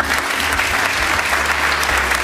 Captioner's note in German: Applaus